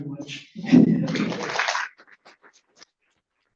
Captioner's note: applause